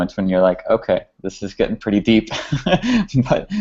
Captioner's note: laughs